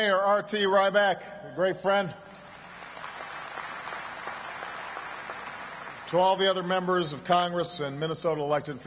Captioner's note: applause